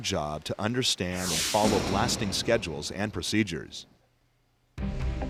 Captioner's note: explosion